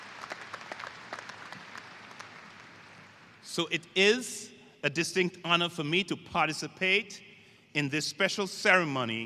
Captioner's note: applause